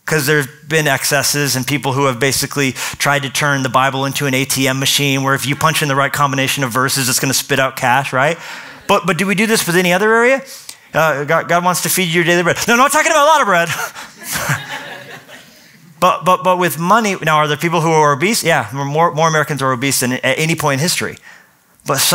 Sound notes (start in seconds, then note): 14.1 laughter